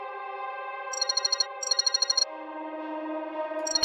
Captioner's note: phone call